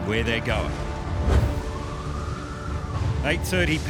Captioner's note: wind howling